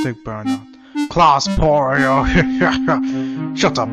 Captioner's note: laughs